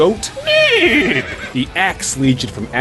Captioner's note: horse Neigh